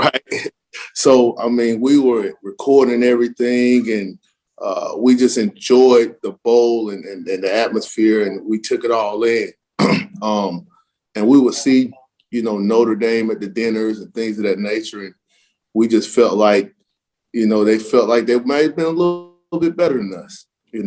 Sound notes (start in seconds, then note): 9.8 cough